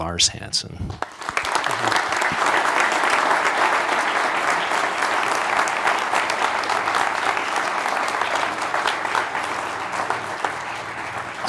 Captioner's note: applause